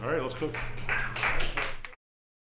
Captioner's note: applause